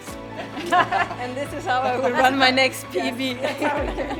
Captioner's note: laughs